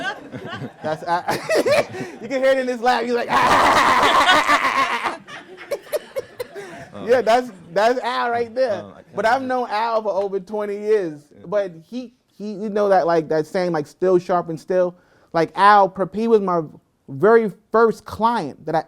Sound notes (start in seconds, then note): 3.3 cackling